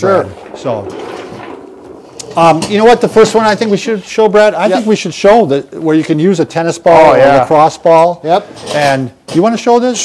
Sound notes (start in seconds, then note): 0.1 dragging skeleton across floor; 1.8 dragging chair across floor